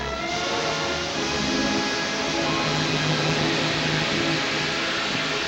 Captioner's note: machinery hissing